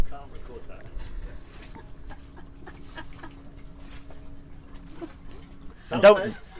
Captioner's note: laughters